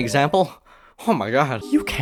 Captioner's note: panic breaths